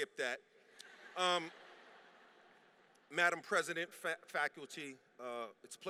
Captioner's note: laughter